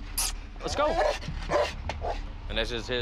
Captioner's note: barking